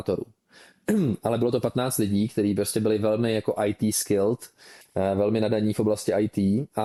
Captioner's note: clears throat